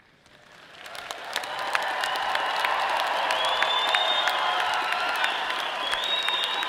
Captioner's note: audience applauding and cheering